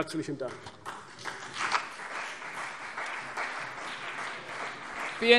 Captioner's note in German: Beifall CDU und BÜNDNIS 90/DIE GRÜNEN